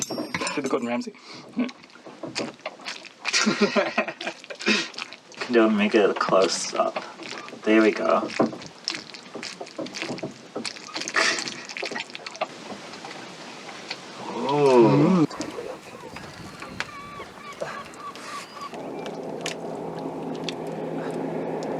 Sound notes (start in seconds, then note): 4.2 wet food noise; 8.5 more wet food noise